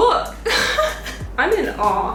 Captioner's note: impressed giggle